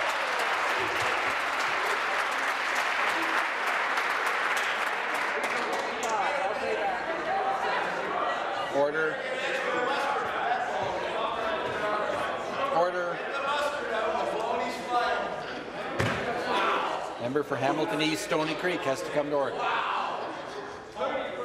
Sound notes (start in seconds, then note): 4.2 some Applause